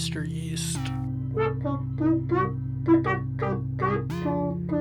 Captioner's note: beep boop beep